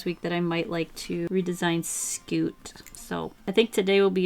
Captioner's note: none